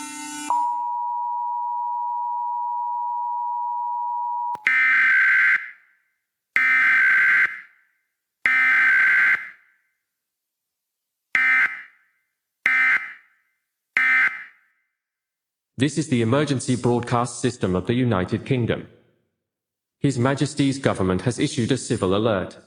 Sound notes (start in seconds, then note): 0.0 alarm beeping; 7.8 alarm beeping